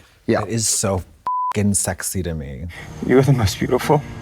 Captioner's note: beep